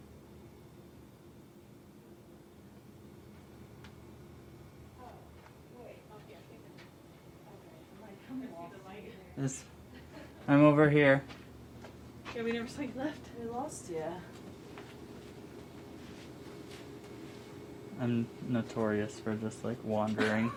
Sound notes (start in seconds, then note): 5.4 women chattering faintly; 12.5 women chattering